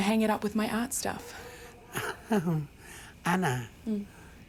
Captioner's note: chuckles